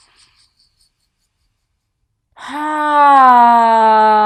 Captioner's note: sighs audibly